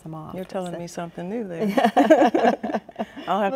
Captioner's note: both laughing